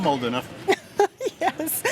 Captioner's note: laughs